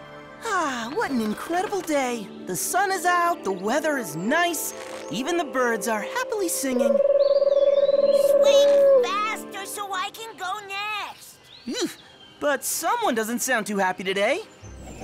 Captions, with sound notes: Ah, what an incredible day! The sun is out; the weather is nice! Even the birds are happily singing. [cooing] [Angry voice] Swing faster so I can go next! Eugh. But someone doesn't sound too happy today.